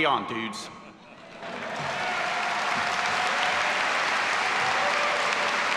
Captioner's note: all applauding and cheering